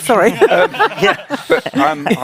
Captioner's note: laughing